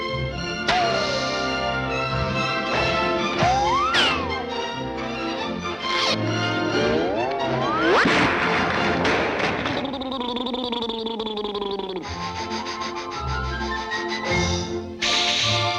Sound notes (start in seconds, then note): 8.5 dog clamoring; 10.0 dog blubbering; 12.9 dog sniffing